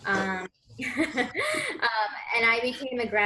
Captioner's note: laughs